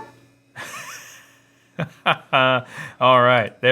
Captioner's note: chuckles